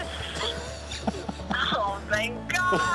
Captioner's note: laughs